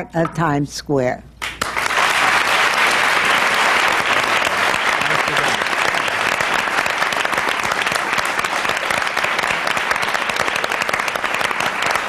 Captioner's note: applause